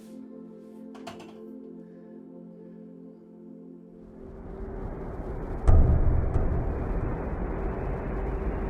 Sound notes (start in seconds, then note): 4.7 deep swirling